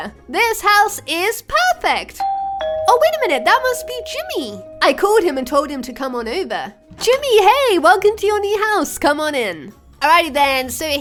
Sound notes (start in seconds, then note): 2.2 doorbell rings